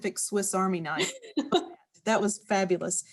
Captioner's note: laughing